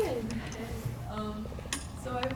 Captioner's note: chuckles